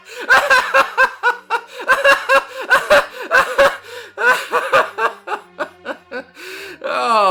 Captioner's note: prolonged laughter